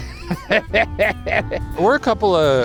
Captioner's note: laughs